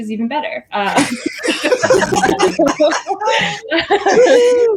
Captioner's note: all laughing